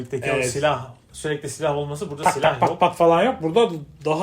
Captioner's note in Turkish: kahkaha